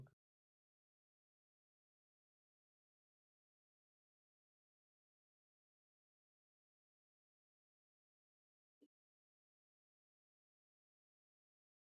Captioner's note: silence